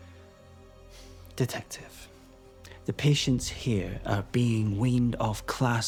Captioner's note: sighs